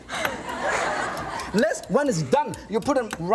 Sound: audience laughs

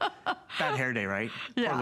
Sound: laughter

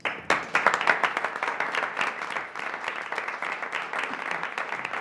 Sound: audience applauding

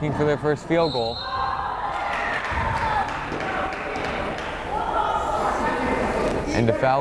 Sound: whistle blows; crowd applauding

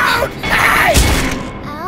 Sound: slap

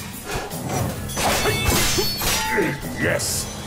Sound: grunting

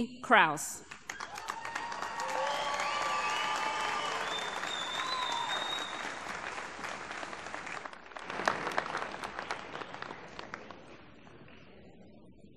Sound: applause

